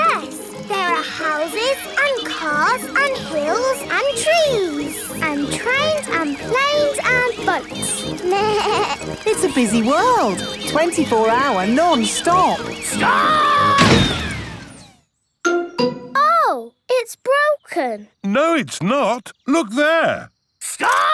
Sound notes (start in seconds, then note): 8.3 bleats; 13.6 thuds